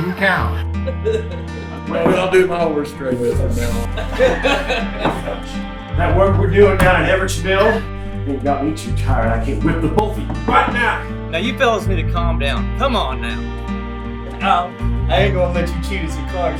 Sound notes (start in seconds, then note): 0.7 group laughs